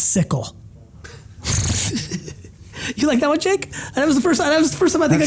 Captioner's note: laughs